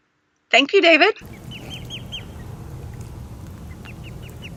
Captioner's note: birds chirp and swans splash